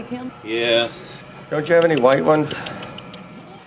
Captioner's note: sighs